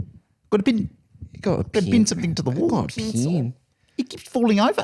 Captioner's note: new Zealand accent